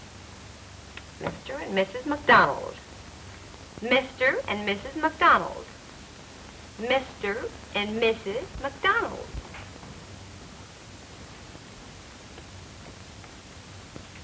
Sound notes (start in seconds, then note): none